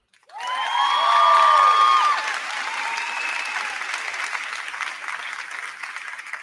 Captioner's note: crowd clapping; crowd cheering